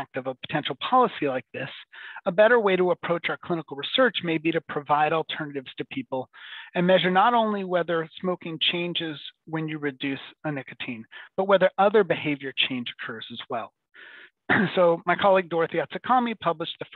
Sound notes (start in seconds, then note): 14.5 clears throat